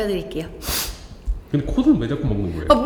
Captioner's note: sniffle